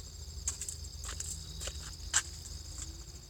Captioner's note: footsteps